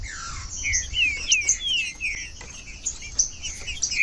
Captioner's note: trinca ferro cantando